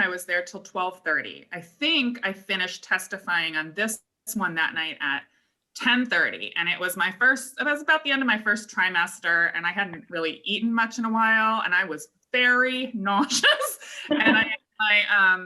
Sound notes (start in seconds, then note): 13.4 laughter